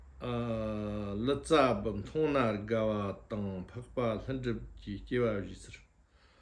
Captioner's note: tibetan